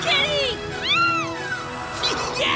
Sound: meowing

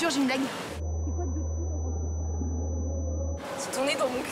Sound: tinnitus

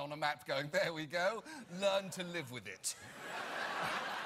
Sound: colonizer accent; audience laughter

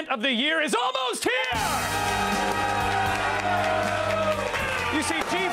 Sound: applause

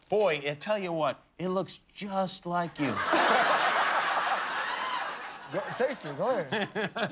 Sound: laughter

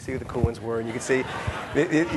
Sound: audience laughing

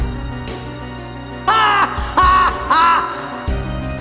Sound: tidus laaaaaaaaaaugh!

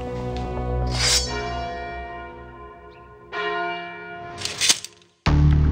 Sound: sword unsheathes; bell tolls; sword clinks; dramatic music

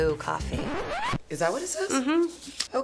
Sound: record scratch

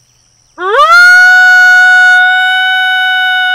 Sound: man howling

